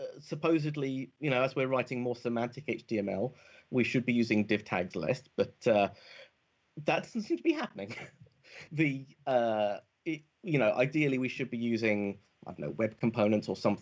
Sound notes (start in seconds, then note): 6.9 chuckles